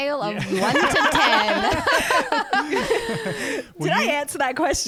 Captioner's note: laughing together